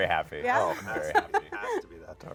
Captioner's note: laughs